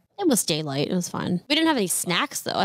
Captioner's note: none